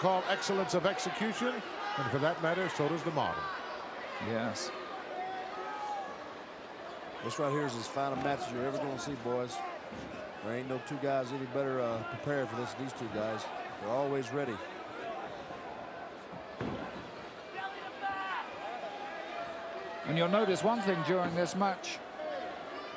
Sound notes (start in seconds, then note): 15.5 crowd murmuring